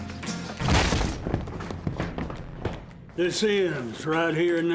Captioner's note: door suddenly opens